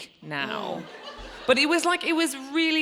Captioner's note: audience laughs